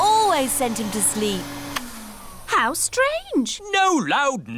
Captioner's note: whirring stops